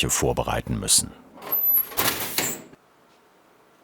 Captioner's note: squeaking, then clattering